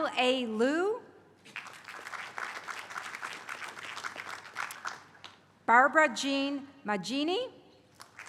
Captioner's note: applause; applause